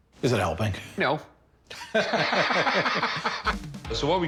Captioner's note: laughter